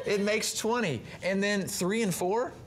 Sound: chuckles

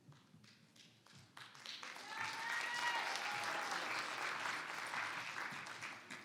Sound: audience applauds; audience cheers

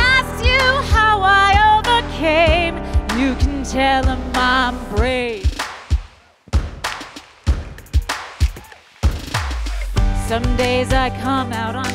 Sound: applause

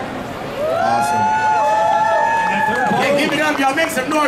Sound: audience cheering

